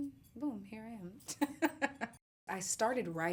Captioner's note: laughs